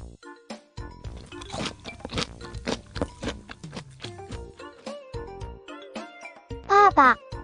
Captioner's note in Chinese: 吃东西时，听到咀嚼声